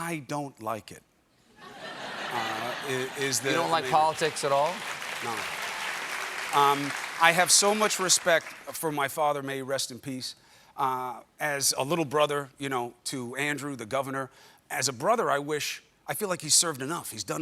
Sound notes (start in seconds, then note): 3.1 applause; 3.2 laughter